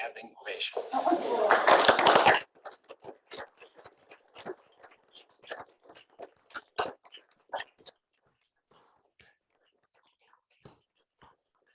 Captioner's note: applause